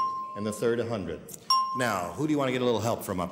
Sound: bell dings

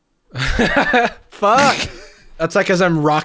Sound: laughter

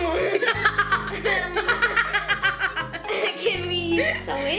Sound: giggles

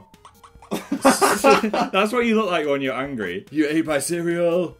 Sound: laughter

